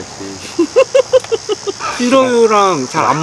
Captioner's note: laughs